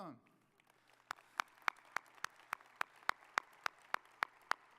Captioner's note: audience applauding